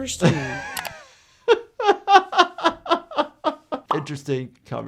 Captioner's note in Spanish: se ríe